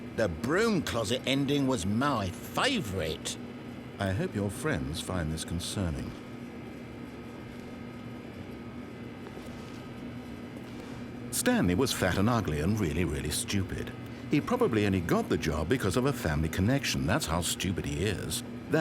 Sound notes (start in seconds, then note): 3.9 normal voice